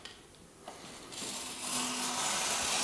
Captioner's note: soft hissing